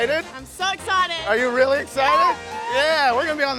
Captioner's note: yelps